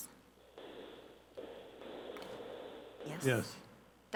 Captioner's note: static crackling